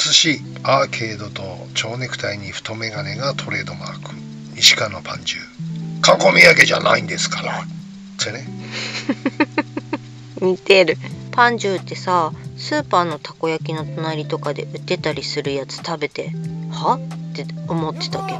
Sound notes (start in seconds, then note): 8.7 laughs